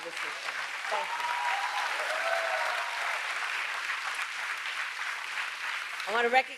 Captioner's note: applause